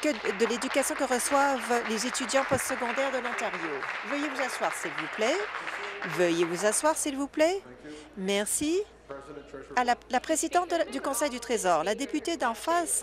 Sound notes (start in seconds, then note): 2.5 applause